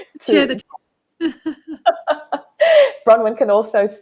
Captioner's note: laughing